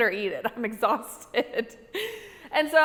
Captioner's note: laughing